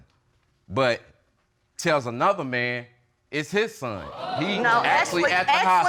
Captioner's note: audience gasping